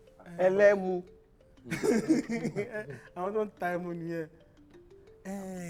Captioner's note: laughs